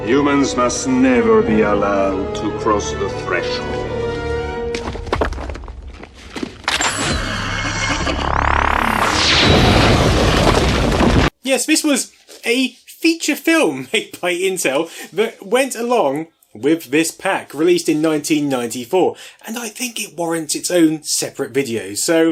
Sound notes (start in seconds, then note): 4.5 gun blast; 4.5 rocks tumbling